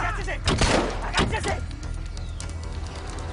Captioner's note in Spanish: Detonación de disparo